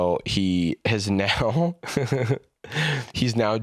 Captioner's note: laughs